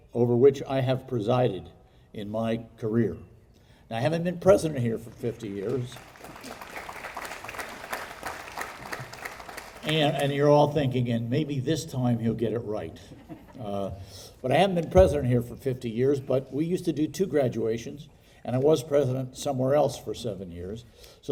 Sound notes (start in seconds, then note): 6.8 audience applauding